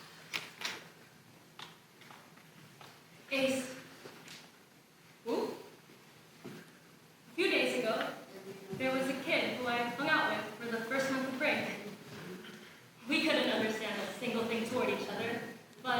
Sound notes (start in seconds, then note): none